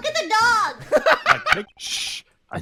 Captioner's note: laughter